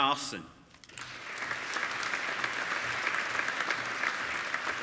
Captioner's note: applauding